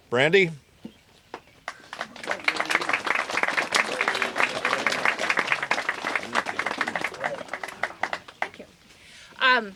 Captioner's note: applause